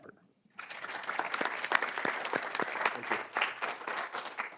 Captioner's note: audience clapping